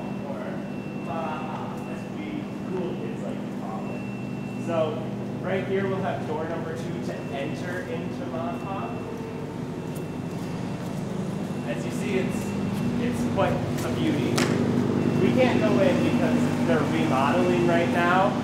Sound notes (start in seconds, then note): 10.5 loud construction noises